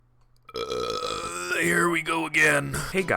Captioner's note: burping